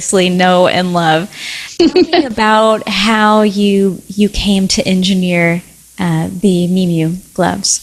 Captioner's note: giggles